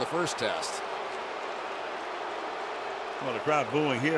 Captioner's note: booing